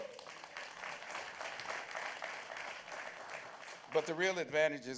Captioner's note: applause